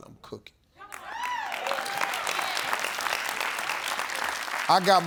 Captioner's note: audience clapping